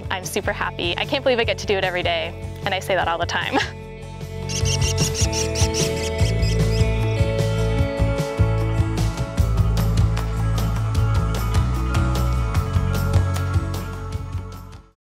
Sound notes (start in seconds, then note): 4.4 american Kestrel sounds; 7.3 music plays and fades